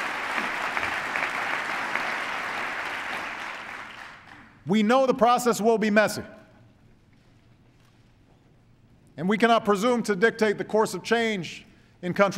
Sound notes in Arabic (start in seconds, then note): 0.0 تصفيق